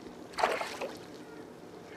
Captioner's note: splash